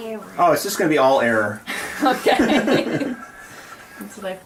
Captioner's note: laughing